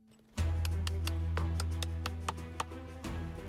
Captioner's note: tapping